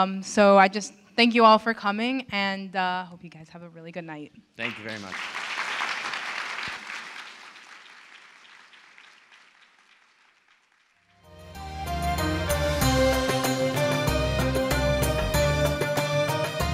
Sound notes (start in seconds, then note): 4.6 applause; 11.2 closing Music